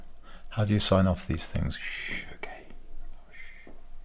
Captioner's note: shhhh